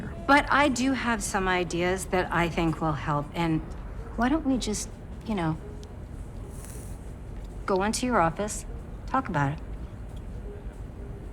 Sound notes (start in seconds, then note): 5.9 Joanne inhaling